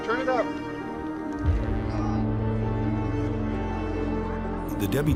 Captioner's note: indistinct chatter